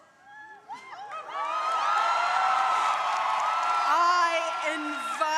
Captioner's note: crowd cheering